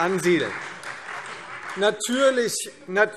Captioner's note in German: Beifall